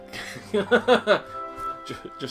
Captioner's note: they both laugh